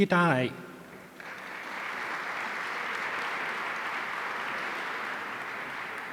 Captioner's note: audience applauding